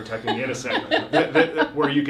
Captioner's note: laughs